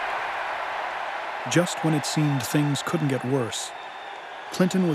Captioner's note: cheering